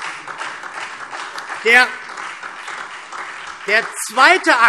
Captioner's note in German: Beifall SPD